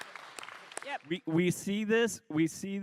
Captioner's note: applause